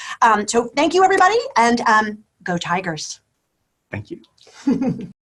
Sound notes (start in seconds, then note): 4.5 chuckling